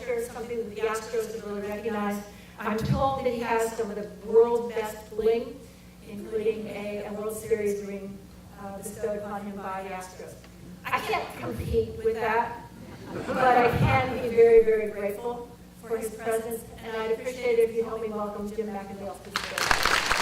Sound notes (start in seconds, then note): 12.8 audience laughter